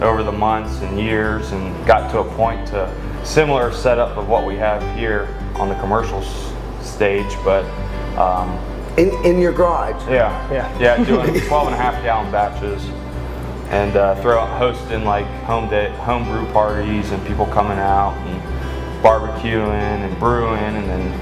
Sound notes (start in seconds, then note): 10.9 laughs